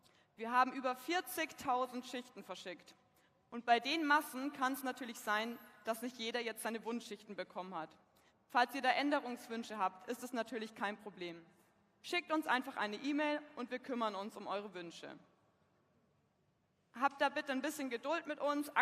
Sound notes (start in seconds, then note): none